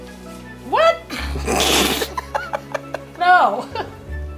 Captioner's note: both laughing